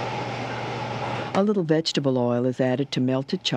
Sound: voiceover

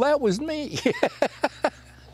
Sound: laughter

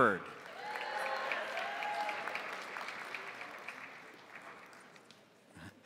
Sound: crowd applauding; crowd cheering

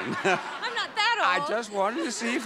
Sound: audience laughing

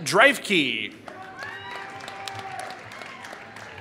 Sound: applause

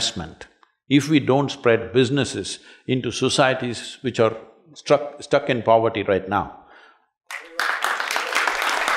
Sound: applause

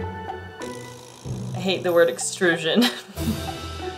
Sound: background music; laughs

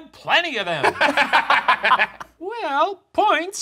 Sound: laughing

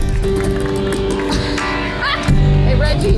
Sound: laughs

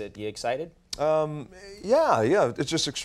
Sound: The Rock smacks lips

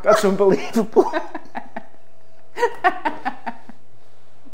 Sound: both laugh

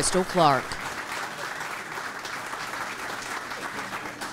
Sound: clapping

